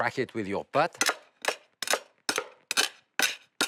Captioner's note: cracking